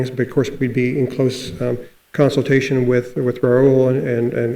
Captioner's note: none